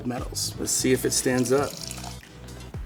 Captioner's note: wine pouring